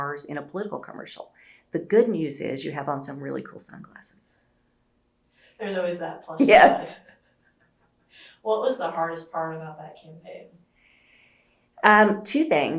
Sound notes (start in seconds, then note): 6.4 laughter